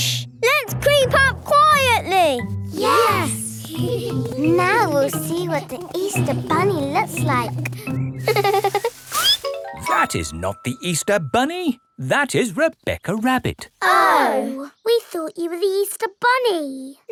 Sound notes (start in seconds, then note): 3.6 giggling softly; 8.2 peppa giggles; 8.2 squeaks